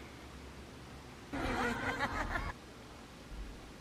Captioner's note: Harley Quinn's echoing mad laugh